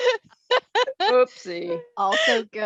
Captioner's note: laughter